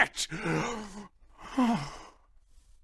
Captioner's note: wistful sigh